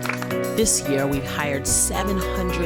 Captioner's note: applause